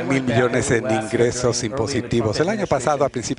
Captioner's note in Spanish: habla en ingés